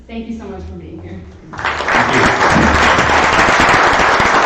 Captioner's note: applause